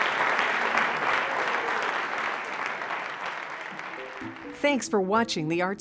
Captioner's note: audience continues applauding